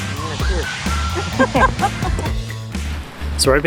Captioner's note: laughing